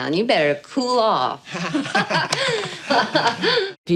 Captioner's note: all laughing